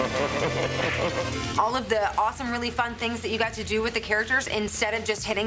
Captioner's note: diabolical laughter